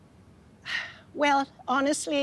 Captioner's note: sighing